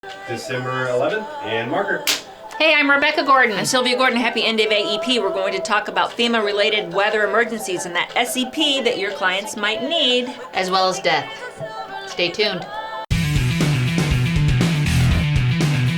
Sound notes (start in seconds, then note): 2.0 clap; 13.3 upbeat music